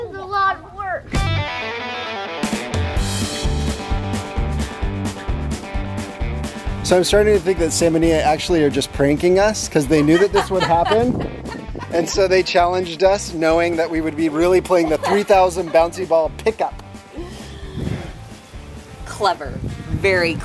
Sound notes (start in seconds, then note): 1.5 upbeat music; 11.8 laughing